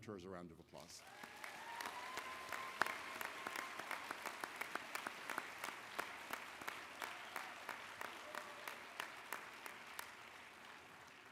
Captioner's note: applause